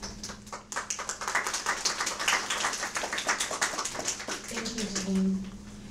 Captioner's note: audience applause